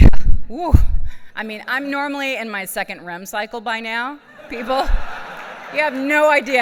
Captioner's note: laughs